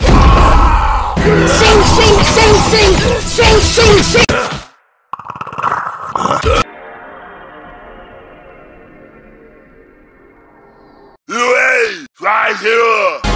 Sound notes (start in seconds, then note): 4.8 speaks mythic predator boss language